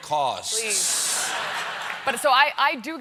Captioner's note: laughter